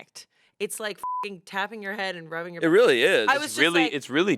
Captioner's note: beep